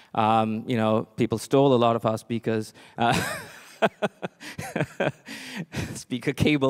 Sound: laughs

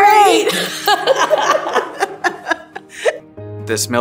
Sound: both laughing

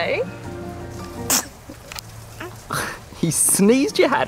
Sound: baby sneezes

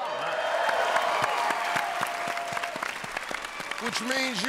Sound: cheers and applause

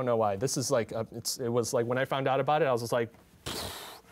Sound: sighs

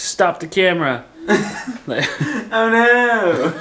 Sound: laughing; laughs

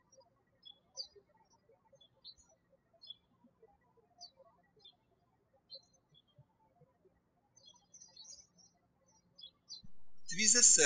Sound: birds chirping

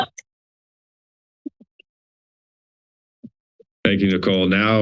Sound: silence

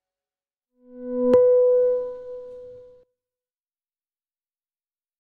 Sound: electronic beep

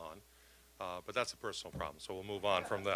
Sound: audience laughing

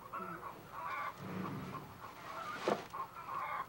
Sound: chickens clucking

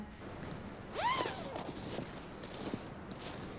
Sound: nylon zips

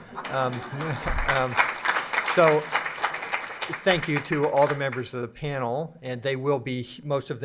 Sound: applause

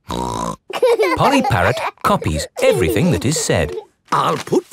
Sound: laughing

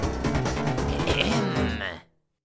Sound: battle music; throat clearing

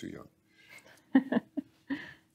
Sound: laughing

